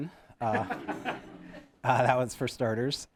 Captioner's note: audience laughs